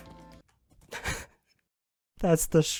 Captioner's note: laughs